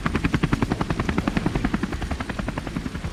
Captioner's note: none